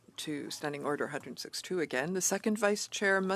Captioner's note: speaking in French